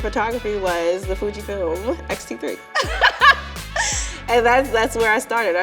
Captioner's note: laughing